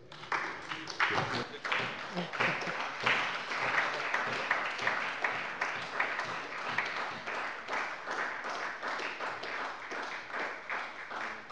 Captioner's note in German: Beifall bei der SPD